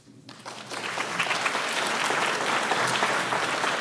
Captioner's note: audience applauding